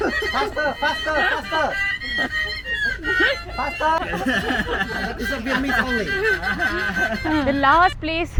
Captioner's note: laugh